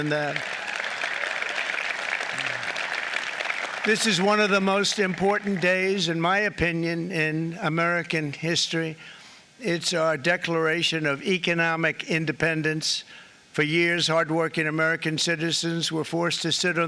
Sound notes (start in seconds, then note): 9.4 applause